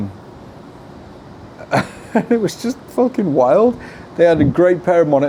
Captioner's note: laughs